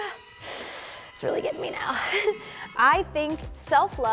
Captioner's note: moans; chuckles